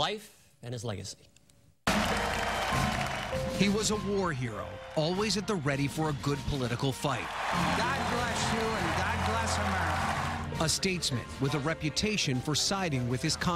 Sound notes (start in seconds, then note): 7.2 applause